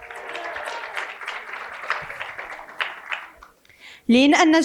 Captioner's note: cheering and applause